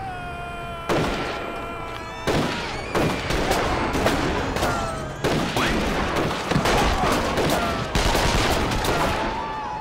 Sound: gun firing; people screaming

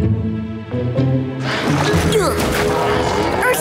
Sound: grunting

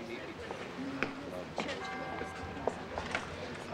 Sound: bells tolling

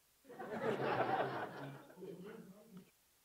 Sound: laugh

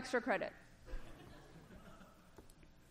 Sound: laughter

